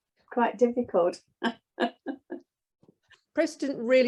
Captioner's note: chuckles